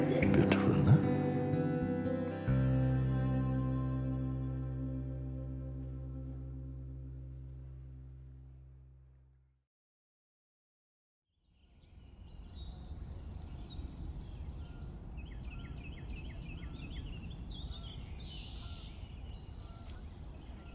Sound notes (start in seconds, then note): 3.3 music fades; 15.6 birds chirping